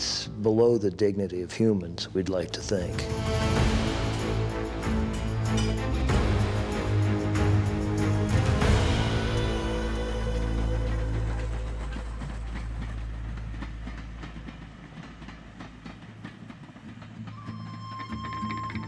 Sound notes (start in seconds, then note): 3.8 bullet casings clanking; 9.0 train chugging